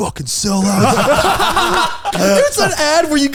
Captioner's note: all laughing